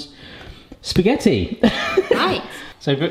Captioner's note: chuckles